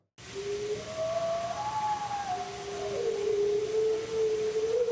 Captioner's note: howl